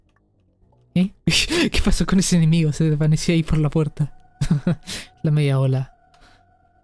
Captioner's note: laughs